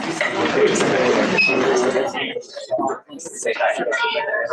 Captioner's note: chatter